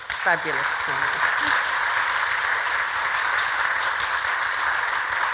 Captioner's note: audience applauds